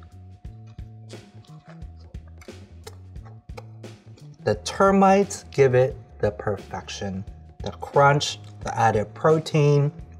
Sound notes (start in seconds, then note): 0.4 chewing